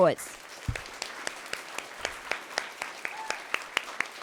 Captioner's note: audience clapping